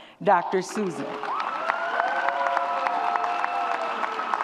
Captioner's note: audience cheers